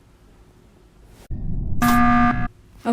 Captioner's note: alarm